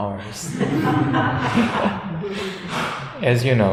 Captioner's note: audience laughs